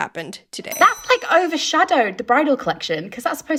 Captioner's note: bell ringing